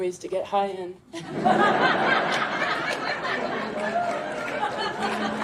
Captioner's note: audience laughing